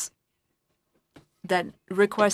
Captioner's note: speaking in French